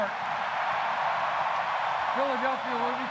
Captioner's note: cheering